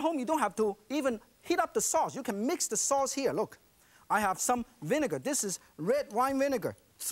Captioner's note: none